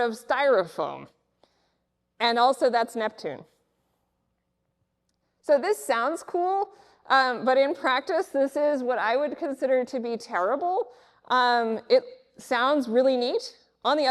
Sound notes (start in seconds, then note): none